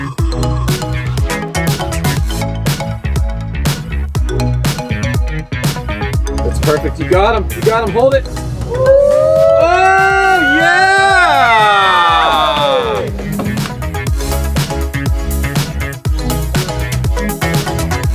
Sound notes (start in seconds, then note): 8.6 man cheers; 14.5 upbeat music